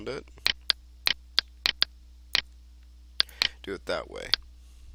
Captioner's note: mouse clicking